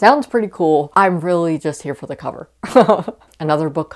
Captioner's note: laughs